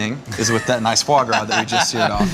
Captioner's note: laughs